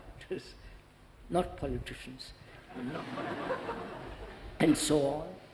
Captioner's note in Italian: risate